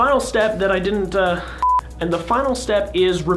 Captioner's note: beeping